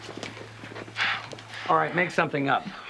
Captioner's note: Evan sighing